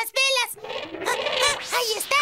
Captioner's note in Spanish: el elefante barrita